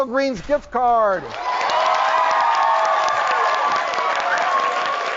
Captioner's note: audience cheering